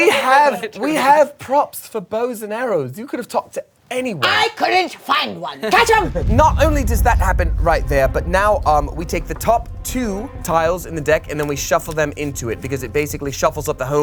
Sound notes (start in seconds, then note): none